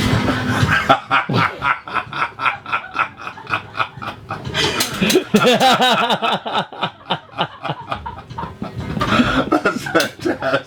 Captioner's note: belly laughs